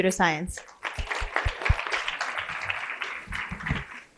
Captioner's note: applause